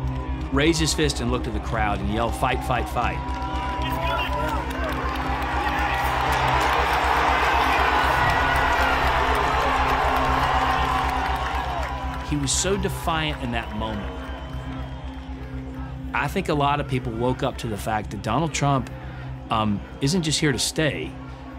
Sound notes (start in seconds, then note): 5.0 crowd cheering and applauding